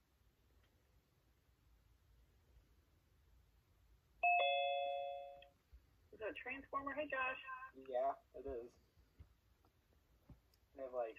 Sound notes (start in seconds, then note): 4.2 Zoom chime